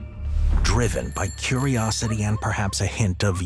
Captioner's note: bell ringing